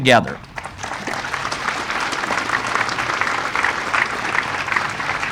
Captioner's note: audience applauding